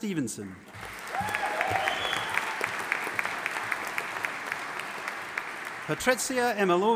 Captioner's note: audience applauding and cheering